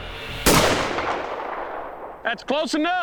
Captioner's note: tense music; fires rifle